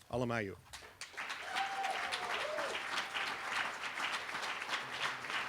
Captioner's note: applause